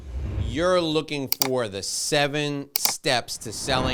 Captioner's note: whooshing; clicking; clicking; whooshing